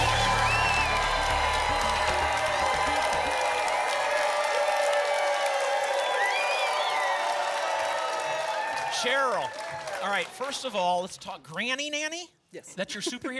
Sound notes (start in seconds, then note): 4.7 applause continues